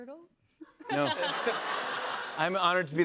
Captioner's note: laughter